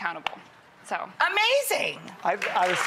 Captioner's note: audience clapping